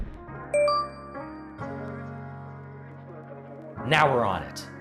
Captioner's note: gentle music; bell dings